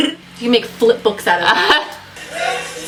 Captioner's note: laughs/agrees